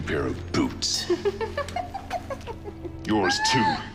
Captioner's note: laughs